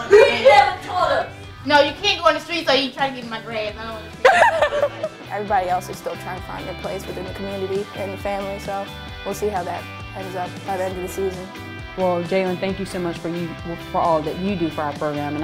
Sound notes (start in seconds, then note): 0.0 voiceover; 0.0 laughs loudly; 0.3 voiceover; 4.2 laughs loudly; 4.6 voiceover